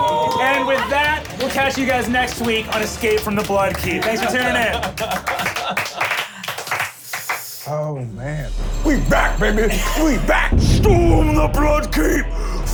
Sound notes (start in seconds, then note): 5.0 applause